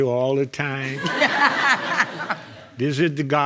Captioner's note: all laughing